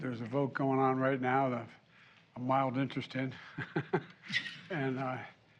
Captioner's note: laughs